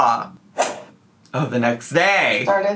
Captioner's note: whip cracks